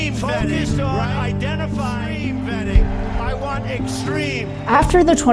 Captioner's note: echo